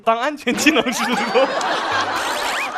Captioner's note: laughed at himself